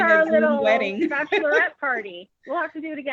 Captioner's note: chuckles